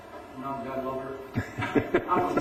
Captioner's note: laughter